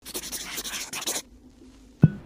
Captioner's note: scribbling noises